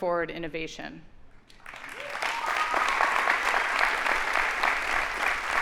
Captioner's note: audience applauding